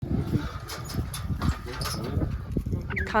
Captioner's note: gate opens